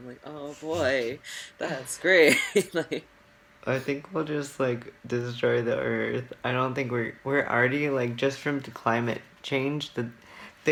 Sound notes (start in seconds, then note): 4.9 sarcasm